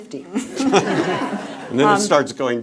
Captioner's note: laughing